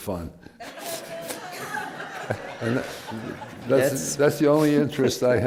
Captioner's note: laughter